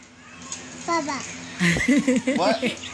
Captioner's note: laughs